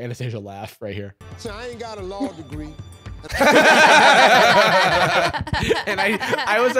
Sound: all laughing

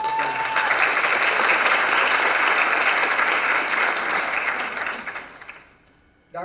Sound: applause

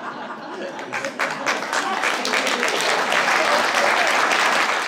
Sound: applause

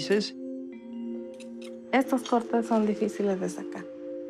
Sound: woman speaking spanish

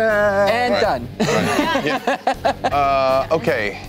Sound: laughing

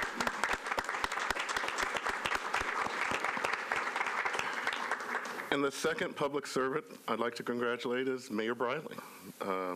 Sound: applause

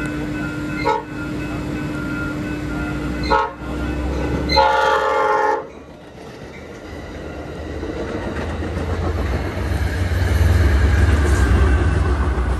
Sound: sound of construction workers and a passing Caltrans train

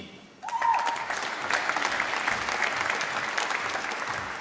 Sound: applause

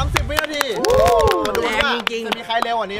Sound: applauding

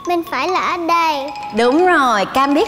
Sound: none

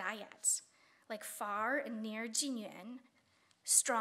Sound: speaking Chinese

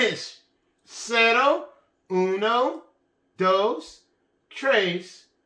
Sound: speaking in Spanish

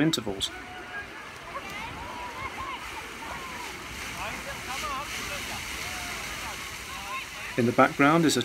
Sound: sounds of water and children playing continues

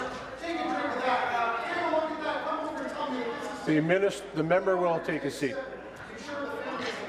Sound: voice trailing

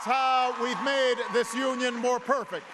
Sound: applause

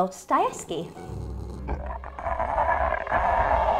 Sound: growling

